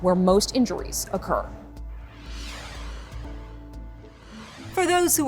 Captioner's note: air whooshes